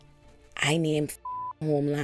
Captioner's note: beep